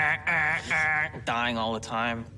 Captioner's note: imitates alarm blaring